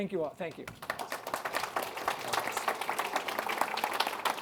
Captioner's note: applause